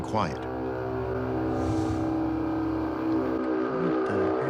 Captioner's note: horn-like sound